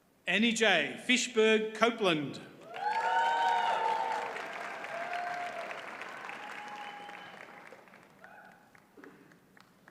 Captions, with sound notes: AnnieJae Fischburg-Coupland. (audience cheers and applauds)